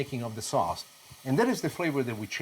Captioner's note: sizzling